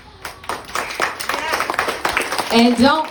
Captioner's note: applause